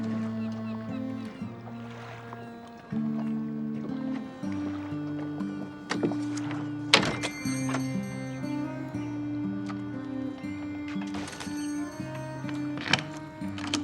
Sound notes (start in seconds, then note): 6.9 bell dinging; 11.9 soft music